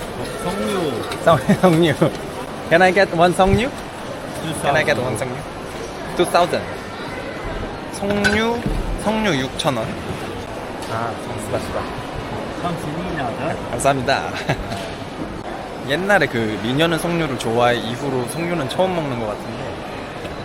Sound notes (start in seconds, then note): 1.3 Suddenly speaking Korean